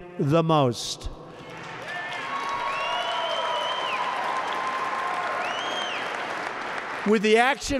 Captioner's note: applause